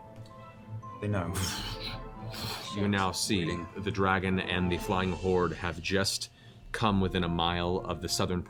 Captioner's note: whoosh